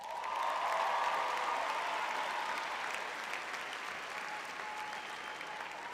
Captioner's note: audience cheering